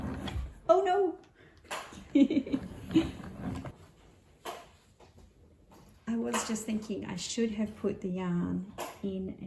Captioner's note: laughs